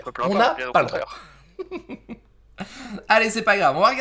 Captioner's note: laught